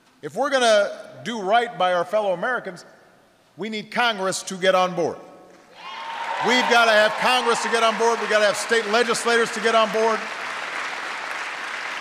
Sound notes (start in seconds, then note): 5.7 applause